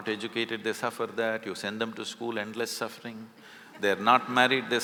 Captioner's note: laughter